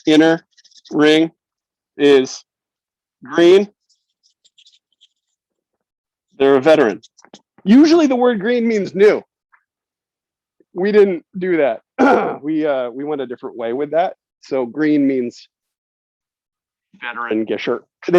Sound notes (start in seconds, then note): 11.9 clears throat